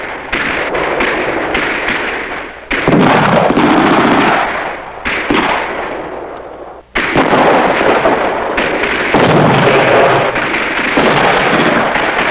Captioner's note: gunfire and explosions